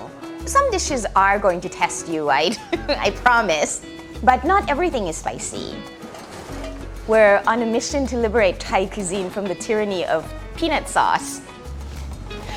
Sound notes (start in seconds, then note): 2.5 laughs